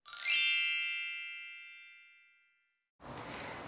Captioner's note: magic zinging sound